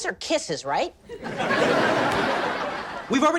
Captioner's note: audience laughs